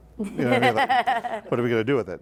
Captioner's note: laughing